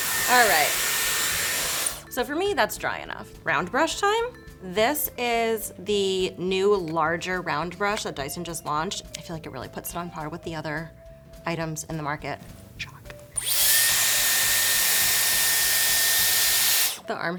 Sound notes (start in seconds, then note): 0.0 dryer whirs; 12.9 whispers; 13.3 dryer whirs